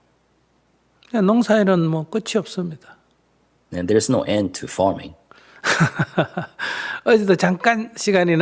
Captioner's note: Sunim Laughter